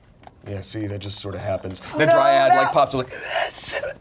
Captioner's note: whispers